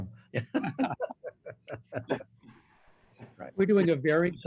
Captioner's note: laughter